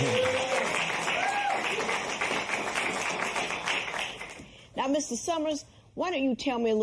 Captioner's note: cheers and applause